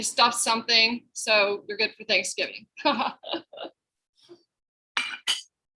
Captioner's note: laughs